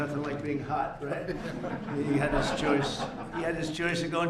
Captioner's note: laughter